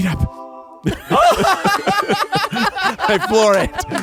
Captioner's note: everyone laughs